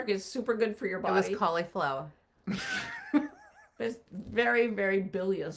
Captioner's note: laughing